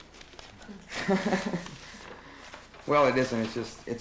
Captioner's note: laughs